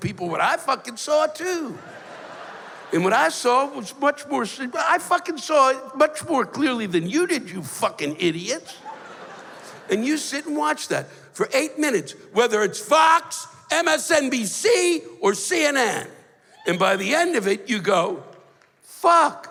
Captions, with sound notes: what I fuckin' saw, too. And what I saw was much more si-- Well, I fuckin' saw it much more clearly than you did, you fuckin' idiots. [laughter] And you sit and watch that for eight minutes whether it's Fox, MSNBC, or CNN. And by the end of it, you go, "Fuck!